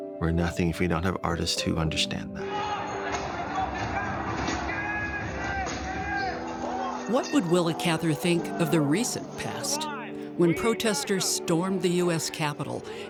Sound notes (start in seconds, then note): 3.0 mob clamors